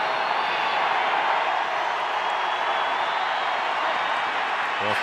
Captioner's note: cheering